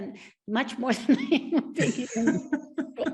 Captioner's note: laughs; both laughing